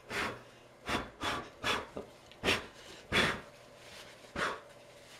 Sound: frantic blowing

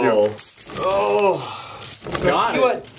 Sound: clinking

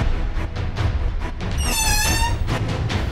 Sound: door Creaks

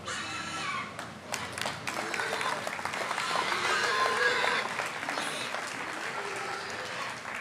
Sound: applause

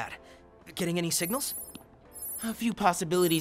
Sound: phone beeping

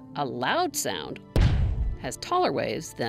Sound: loud thud

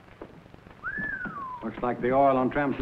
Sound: Idaho whistles

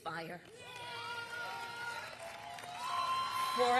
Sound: applause

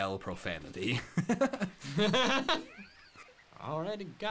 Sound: laughter

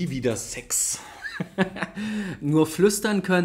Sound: laughs

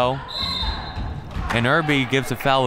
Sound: whistle

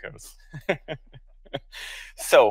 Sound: laughs

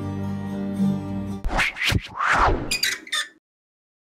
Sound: logo squeaking

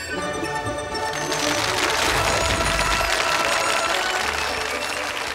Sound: audience clapping

